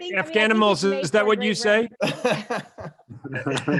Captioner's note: laughs